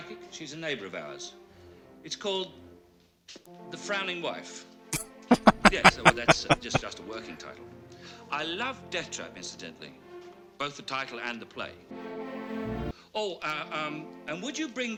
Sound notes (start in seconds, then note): 5.2 laughing